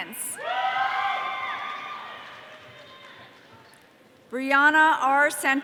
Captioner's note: audience cheering